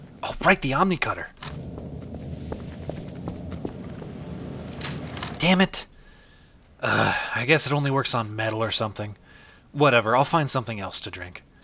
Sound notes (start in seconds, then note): 4.7 dull mechanical noise